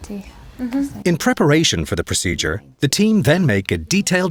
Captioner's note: voiceover